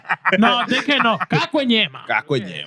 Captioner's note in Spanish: Riendo; Hablando en idioma extranjero